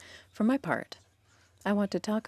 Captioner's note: speaking French